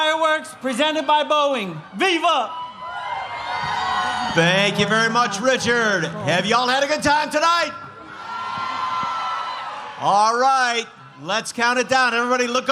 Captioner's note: cheering